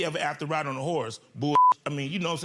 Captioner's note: beeps